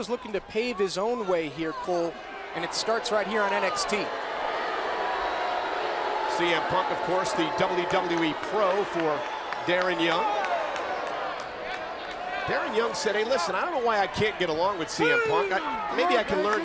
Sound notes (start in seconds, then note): 4.1 crowd chatter